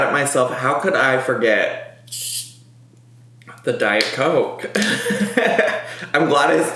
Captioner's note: laughs